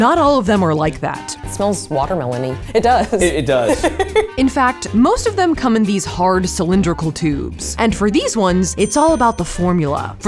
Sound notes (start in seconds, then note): 2.7 laughs